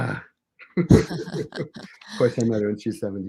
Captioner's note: both giggling